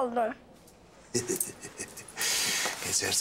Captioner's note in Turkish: Gülme sesi